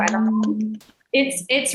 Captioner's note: hand clapping